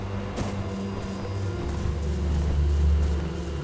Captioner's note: grass rustling